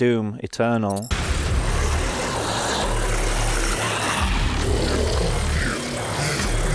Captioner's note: creatures growling; audio whooshing